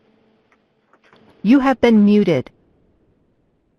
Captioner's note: automated Voice